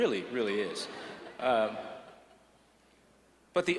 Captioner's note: laughter